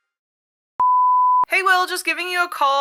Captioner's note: phone ringing